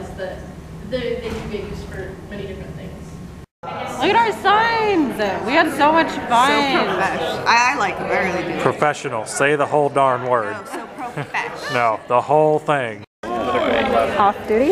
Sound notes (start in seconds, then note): 10.6 laughs